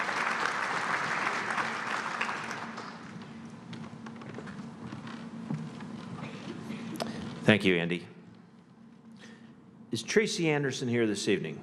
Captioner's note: applause